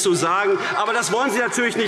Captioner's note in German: Zurufe CDU, BÜNDNIS 90/DIE GRÜNEN, Freie Demokraten und LINKE